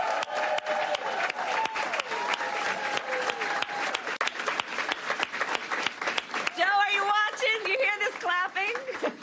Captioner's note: applause